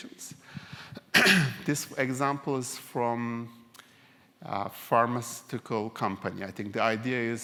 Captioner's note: cough